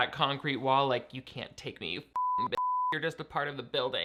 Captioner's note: beep